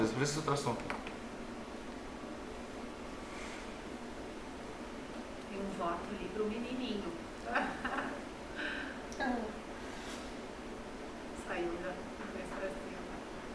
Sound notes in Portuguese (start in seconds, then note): 7.4 risos